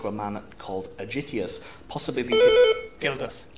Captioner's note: buzz